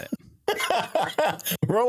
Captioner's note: laughing